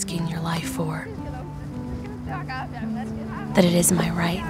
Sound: speaking Somali

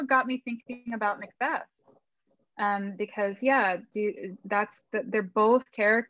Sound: none

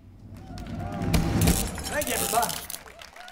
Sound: applause

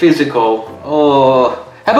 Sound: groans

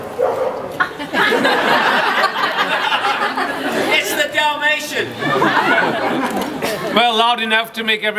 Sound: dog barks; crowd laughs; more laughter

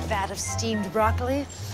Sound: sniff

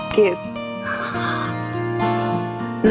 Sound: sighs

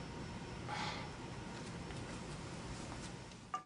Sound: sighs

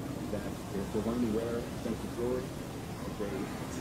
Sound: TV chattering

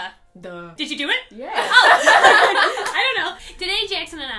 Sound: laughter

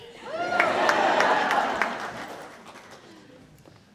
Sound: audience cheering

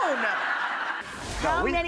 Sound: crowd laughing

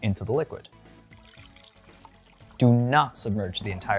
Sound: liquid pouring

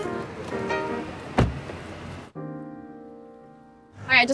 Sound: door slams

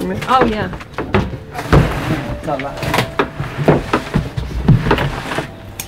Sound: sound of trash going in can

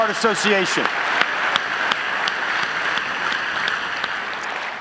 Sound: audience applauds

